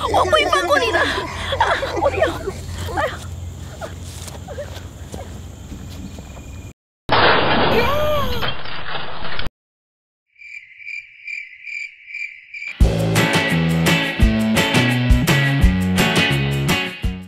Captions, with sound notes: I won't ever forget this! Ah... my waist >_< *pathetic whimpers* *more pathetic whimpers* *CRASH*